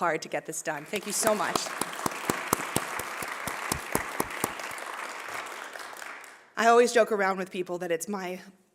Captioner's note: applause